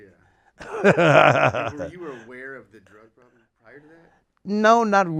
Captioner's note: laughs